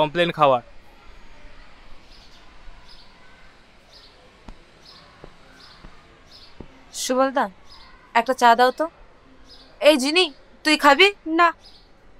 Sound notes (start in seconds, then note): none